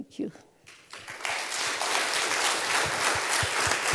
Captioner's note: applause